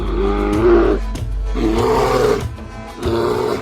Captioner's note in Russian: Занятой рёв; Раздражительный рёв; Осуждающий рёв